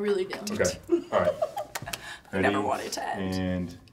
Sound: giggling

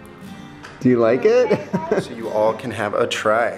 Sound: laughs

